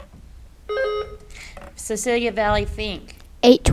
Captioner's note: buzzer beeps